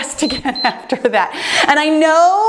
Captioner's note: timer beeps